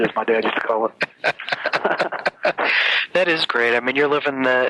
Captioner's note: laughs